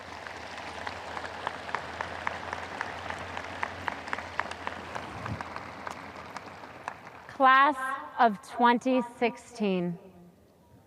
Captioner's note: audience applause